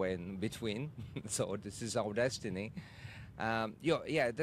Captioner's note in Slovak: hahaha